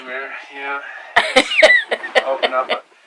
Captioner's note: laughs